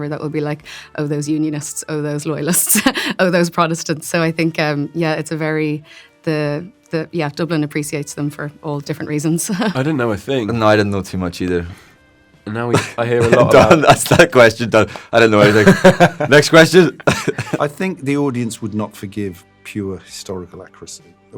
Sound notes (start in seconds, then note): 16.9 laughing